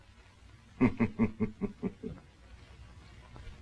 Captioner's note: chuckles